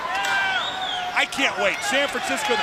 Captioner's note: crowd cheering